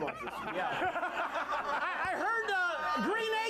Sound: laughter

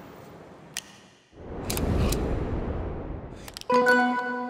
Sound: air whooshing; camera clicks; bell dings

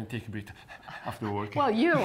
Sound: panting noise

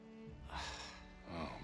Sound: sigh

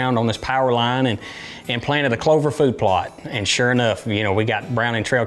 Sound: none

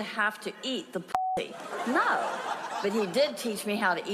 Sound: audience laughs

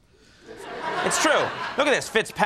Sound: audience laughing

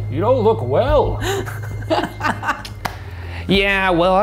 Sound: laughing

